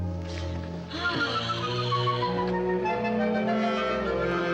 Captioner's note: sighing